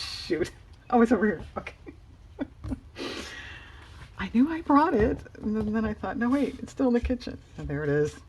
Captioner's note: laughs